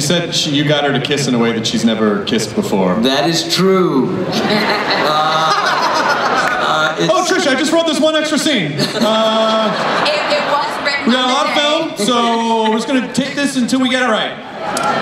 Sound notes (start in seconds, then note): 4.3 everyone laughs; 8.7 laughter